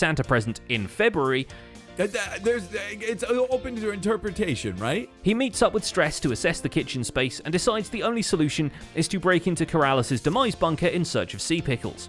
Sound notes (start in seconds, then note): 2.1 stuttering